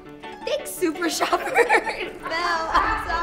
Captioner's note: laughing